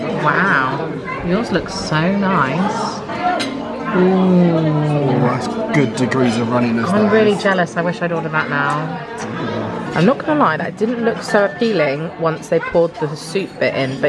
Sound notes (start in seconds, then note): 3.3 utensils clanking